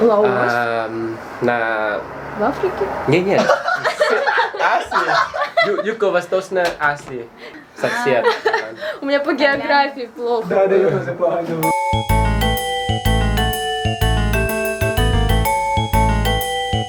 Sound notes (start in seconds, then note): 3.4 laughing